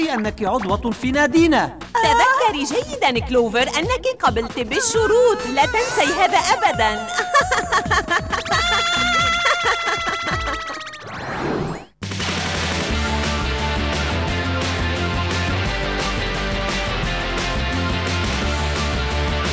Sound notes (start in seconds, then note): 7.9 evil laughter; 9.9 screaming; 14.4 theme music